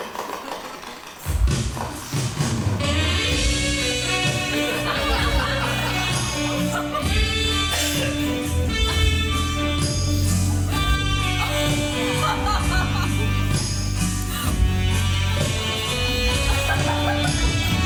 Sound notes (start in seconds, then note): 3.8 audience laughing